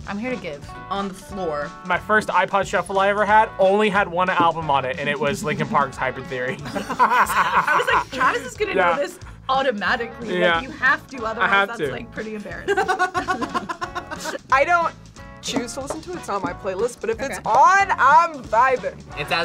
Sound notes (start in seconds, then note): 6.5 laughs; 12.6 group laughs